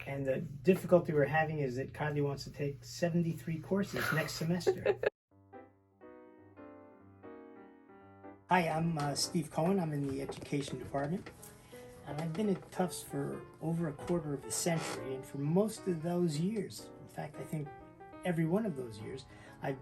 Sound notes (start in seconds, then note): 4.6 laughs; 6.9 gentle music